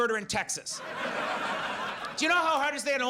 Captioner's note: audience laughs